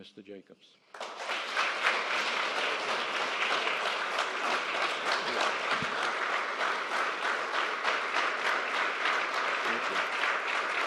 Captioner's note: applause